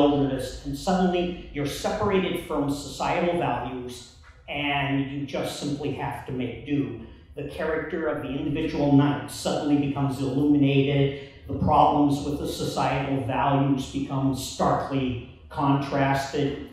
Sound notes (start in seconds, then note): none